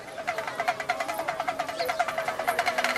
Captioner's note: beating